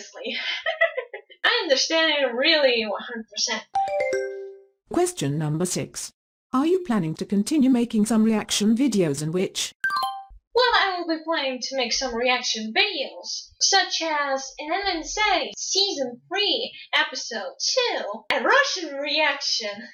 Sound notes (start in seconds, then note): 0.3 he-he sounds; 3.7 question ding